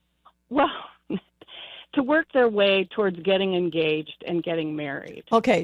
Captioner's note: laughs